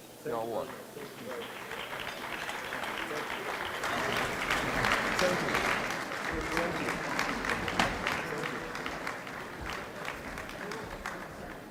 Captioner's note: applause